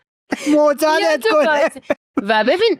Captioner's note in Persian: خنده